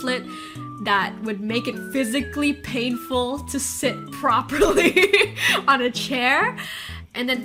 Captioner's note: laughs